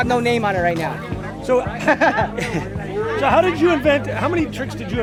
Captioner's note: laughs